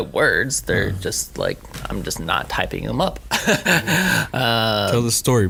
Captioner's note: laughing